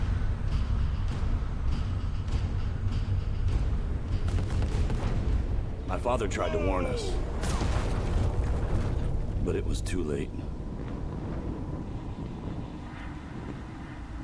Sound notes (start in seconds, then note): 4.8 distant explosions; 7.0 explosion blasting